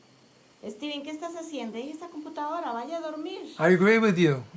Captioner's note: speaking Spanish